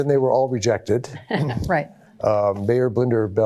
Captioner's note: chuckling